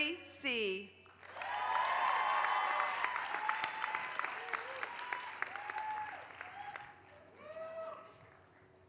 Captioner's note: applause